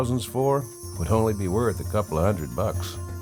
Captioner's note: bells chiming